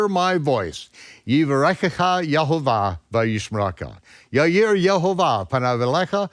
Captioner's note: speaks in foreign language